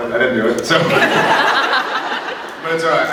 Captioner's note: laughs